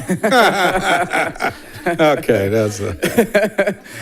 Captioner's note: laughs